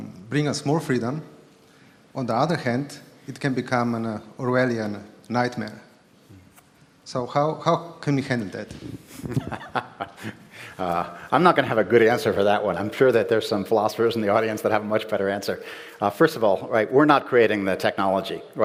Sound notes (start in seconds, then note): 9.1 laughter